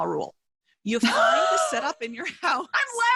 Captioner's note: laughing